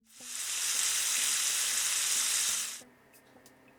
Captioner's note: sizzling sound